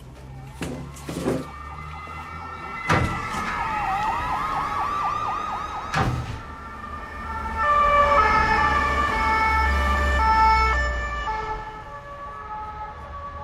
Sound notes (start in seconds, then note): 0.1 sirens wailing; 7.6 sirens continue